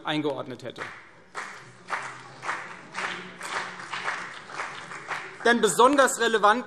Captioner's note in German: Beifall CDU und vereinzelt BÜNDNIS 90/DIE GRÜNEN